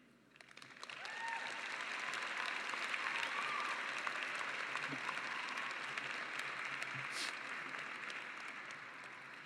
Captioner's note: applause